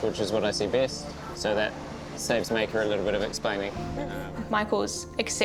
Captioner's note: chuckles